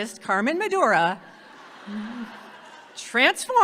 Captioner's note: audience laughs